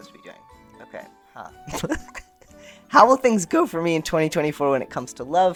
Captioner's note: laughter